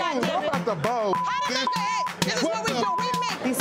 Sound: beeping

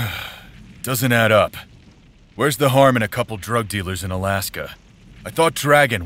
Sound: sigh

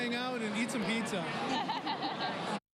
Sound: laughing

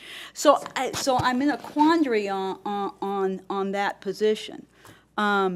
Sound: none

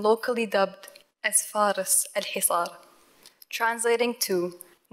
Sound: foreign language

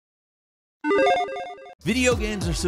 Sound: logo beeps

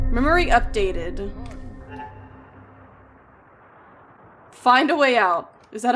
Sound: speaking and Applause on Radio

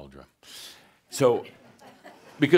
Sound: some chuckles

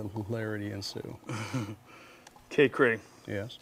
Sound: laughing

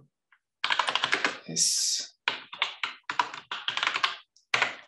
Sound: keyboard clattering

